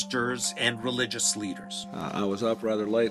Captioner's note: soundbite of archived recording